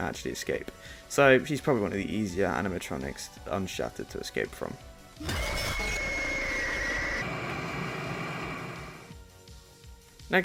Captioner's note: Chica jumpscare